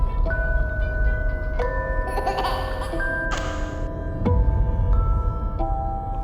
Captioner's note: baby giggling